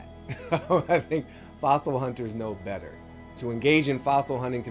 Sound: laughs

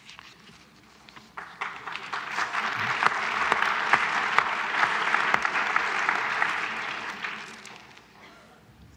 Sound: applause

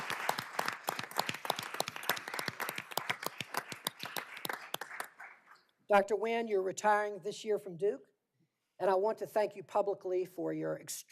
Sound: applause

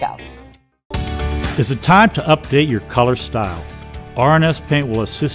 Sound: voiceover

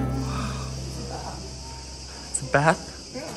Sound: cicadas chirping

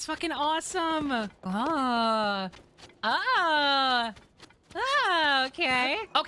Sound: oohing and Ahhing

